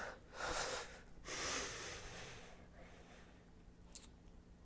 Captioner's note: exasperated exhale